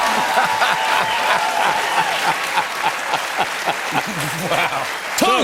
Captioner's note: cheers and applause; laughter